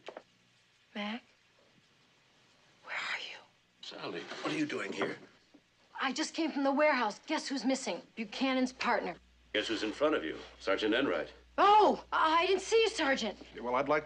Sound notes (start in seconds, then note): 3.2 fısıldayan